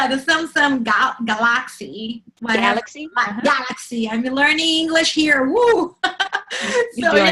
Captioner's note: laughs